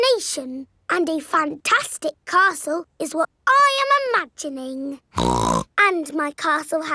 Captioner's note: snorts